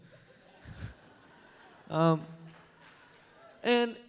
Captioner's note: laughter